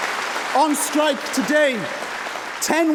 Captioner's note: applause